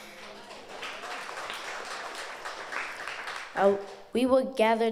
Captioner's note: audience applauds